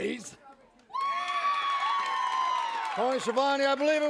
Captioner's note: audience applauds